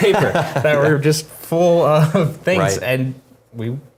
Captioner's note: laugh